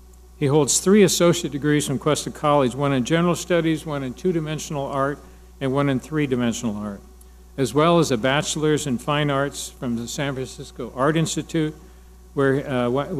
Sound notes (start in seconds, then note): none